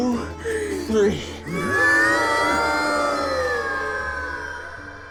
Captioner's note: everybody groaning